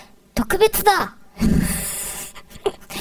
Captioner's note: laughing